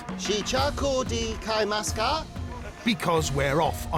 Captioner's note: speaking Asian language